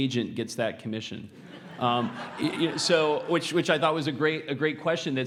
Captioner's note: laugh